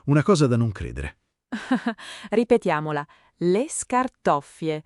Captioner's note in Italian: Haha